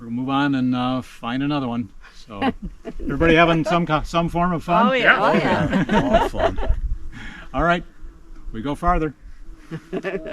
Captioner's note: laughter